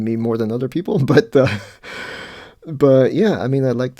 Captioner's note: laughs